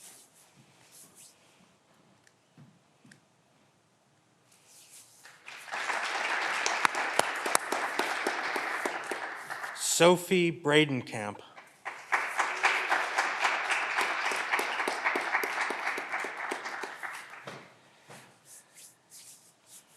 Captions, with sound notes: Sophie Bredenkamp. (clapping continues)